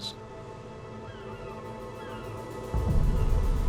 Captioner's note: seagulls squawking